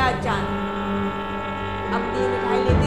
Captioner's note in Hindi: ट्रेन की सीटी